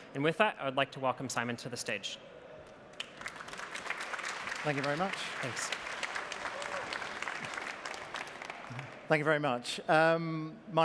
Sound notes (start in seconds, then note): 2.9 applause